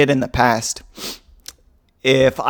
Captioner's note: sniffs, for dramatic impact